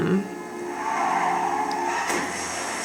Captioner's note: horn blaring; tires screeching; water splashing